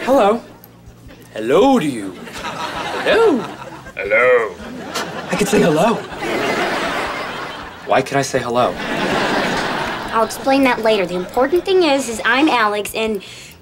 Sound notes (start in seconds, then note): 4.3 deep voice; 5.5 normal voice